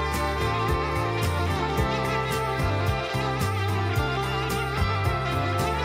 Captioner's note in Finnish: Aplodeja